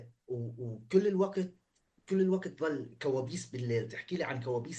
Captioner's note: speaking arabic